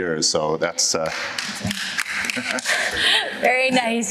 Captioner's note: applause